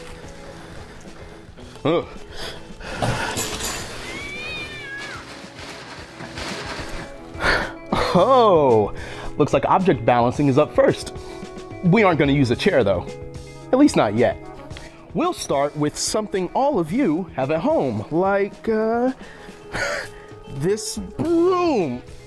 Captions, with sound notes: Oh. (crashing) (cat shrieks in the distance) Oh, looks like object balancing is up first. We aren't gonna use a chair, though, at least not yet. We'll start with something all of you have at home like this broom.